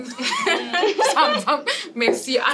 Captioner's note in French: rires